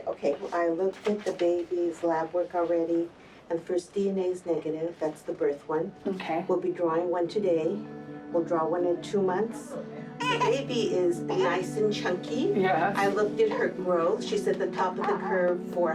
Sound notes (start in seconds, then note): 10.1 cries